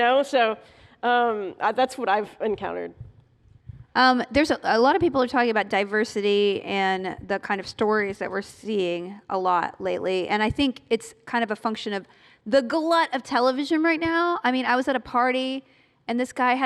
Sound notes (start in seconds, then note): none